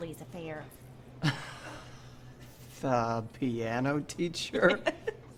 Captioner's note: chuckles